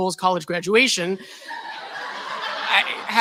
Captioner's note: laughter